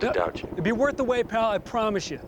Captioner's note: helicopter whirring